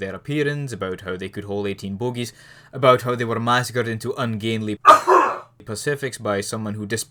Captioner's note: cough